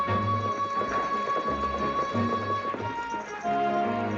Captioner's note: horse hooves trotting